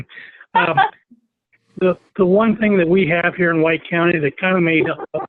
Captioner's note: laugh